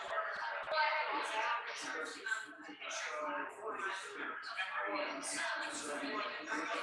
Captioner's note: people chattering indistinctly continues